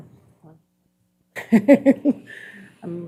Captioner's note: chuckling